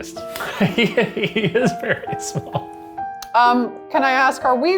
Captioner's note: laughs